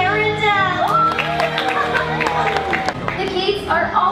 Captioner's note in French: Applaudissements